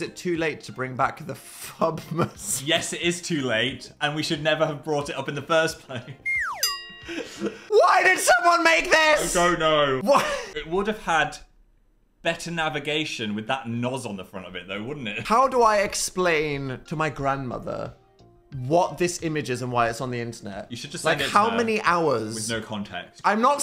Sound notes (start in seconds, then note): 6.2 slide whistle descending tone; 6.6 bell clanks